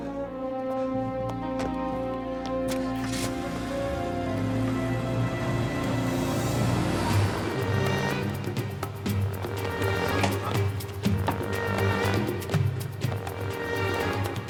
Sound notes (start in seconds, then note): 3.0 engine revs; 7.8 dramatic music